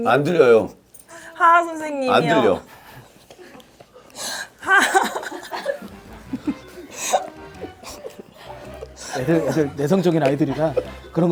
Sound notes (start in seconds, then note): 0.1 haha